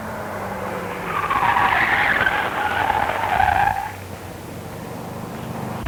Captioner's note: tires screeching